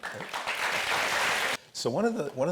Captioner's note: audience applauds